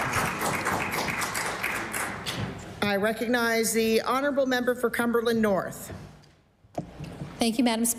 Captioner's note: applause